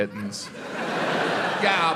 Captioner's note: audience laughs